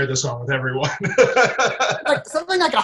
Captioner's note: laughter